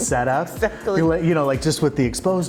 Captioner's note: laughing